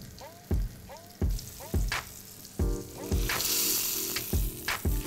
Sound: upbeat music; oil sizzles

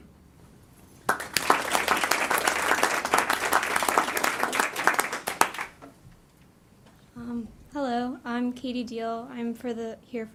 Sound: applause

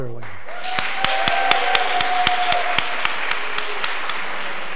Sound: audience applause

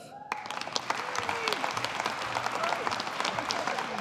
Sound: audience applauding

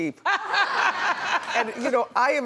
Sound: NeNe laughs

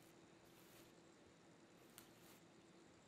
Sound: indistinct rubbing

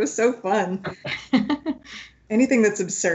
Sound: laughs

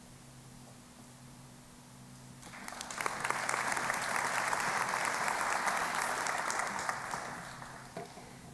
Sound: applause

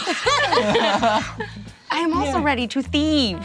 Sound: laughing

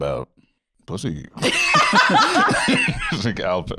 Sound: laughing

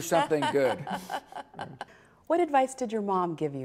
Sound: laughter

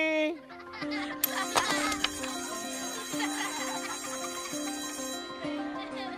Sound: children laughing; bell ringing

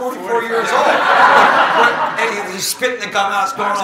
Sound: audience laughing

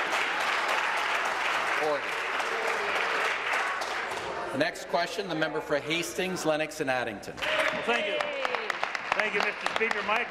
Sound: applause

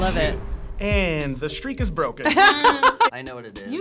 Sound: laughing

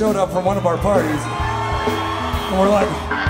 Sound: crowd cheering

